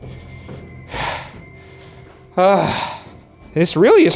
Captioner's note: heavy breathing